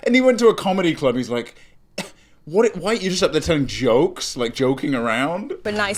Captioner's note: scoffs